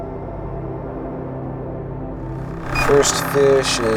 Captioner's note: wind